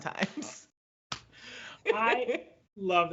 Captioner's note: laughs